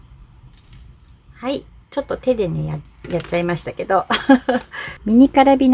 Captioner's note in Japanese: 笑い